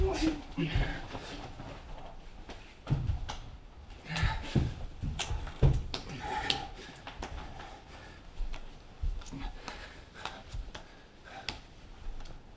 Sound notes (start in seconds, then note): none